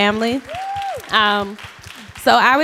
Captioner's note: applause